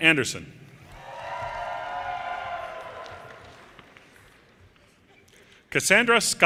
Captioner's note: audience cheers and applause